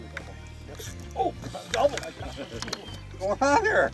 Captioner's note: voiceover